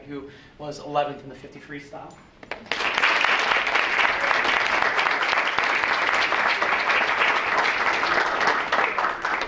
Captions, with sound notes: who was eleventh in the 50 freestyle. (audience claps)